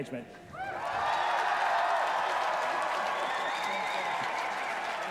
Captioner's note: applause